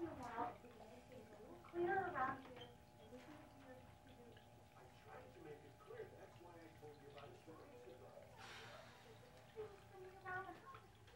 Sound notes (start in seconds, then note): 3.1 parents arguing